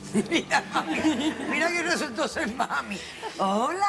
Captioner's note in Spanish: risas